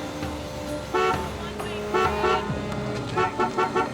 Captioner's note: horn honking